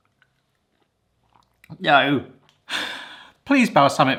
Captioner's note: sighs